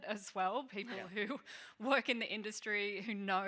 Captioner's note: chuckling